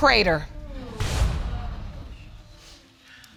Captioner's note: audience murmuring